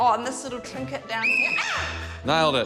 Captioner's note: whistle trills; shrieks